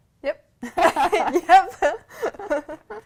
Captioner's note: laughter